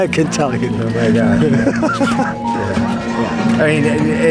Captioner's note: laughs